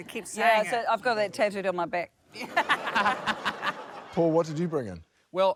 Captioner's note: laughter